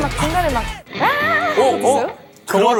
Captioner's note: growling